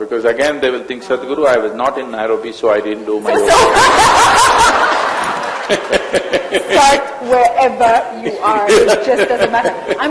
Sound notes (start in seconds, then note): 3.4 laughter; 8.4 Sadhguru laughs